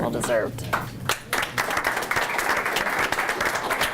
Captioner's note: group applauds